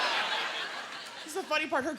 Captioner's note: laughter